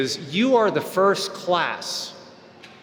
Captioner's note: none